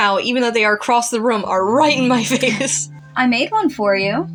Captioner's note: chuckle